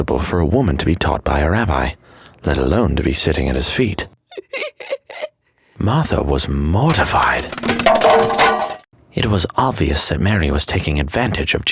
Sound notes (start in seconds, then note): 4.2 Mary giggles; 7.0 pans clattering